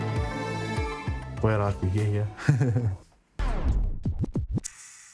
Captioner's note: chuckles